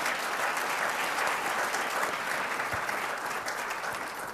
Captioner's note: applause